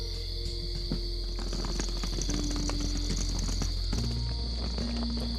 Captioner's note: luggage wheels rattle